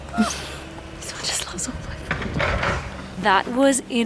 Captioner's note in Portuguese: sussurrando